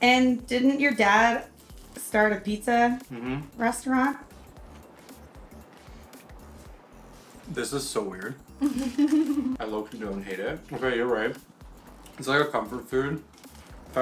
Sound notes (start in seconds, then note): 8.6 laughing